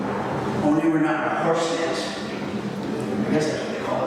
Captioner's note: mumbles